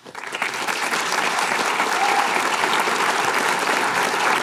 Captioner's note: applause